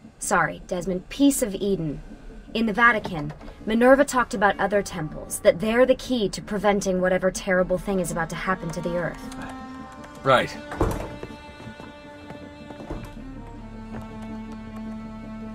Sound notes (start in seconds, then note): 10.7 doors open